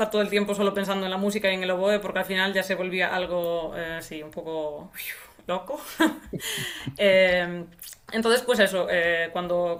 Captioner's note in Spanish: risas